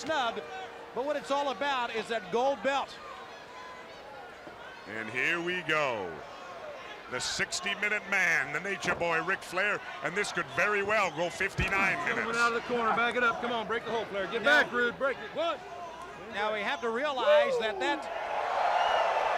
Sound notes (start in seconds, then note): 2.4 bell ringing